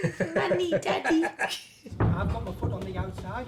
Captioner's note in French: les deux rigolent